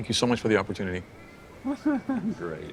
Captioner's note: dry laughter